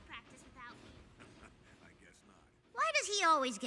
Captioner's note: chuckles